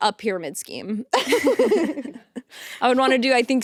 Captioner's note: both laughing